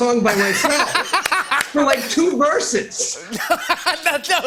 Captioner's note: laughter